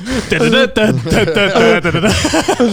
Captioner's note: humming; laughing